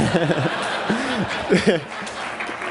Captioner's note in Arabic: ضحك